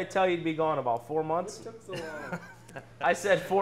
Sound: laughs

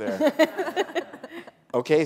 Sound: laughter

